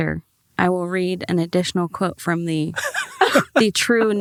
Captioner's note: group laughs